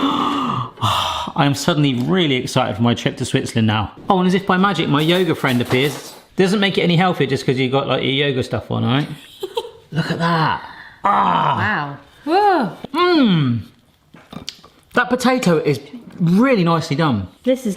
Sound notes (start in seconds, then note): 9.2 giggles